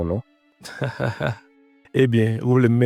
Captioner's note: laughs